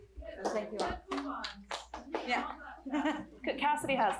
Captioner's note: chatter